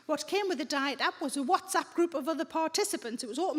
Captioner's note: none